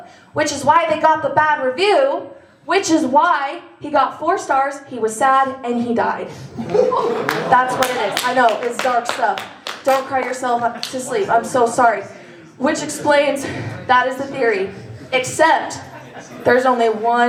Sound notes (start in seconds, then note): 6.5 laughter